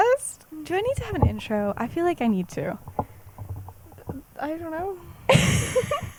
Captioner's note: laughs; laughs